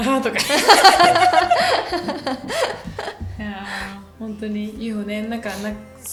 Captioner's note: laughter